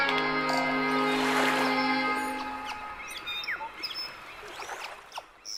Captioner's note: light music; whistling; waves lapping